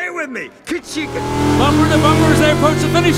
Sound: car engines revving

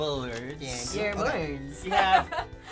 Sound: laughing

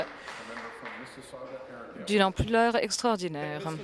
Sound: some applause

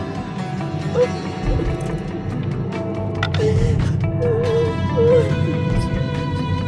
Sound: crying

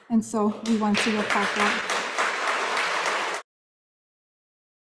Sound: audience applauding

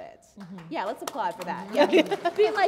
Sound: applause

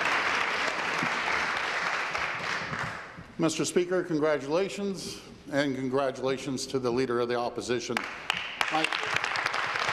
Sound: applause

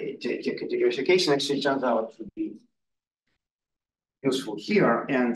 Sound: audio distorting

